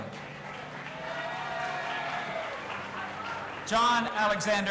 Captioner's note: audience applauding and cheering